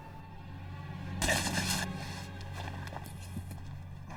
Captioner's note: grunting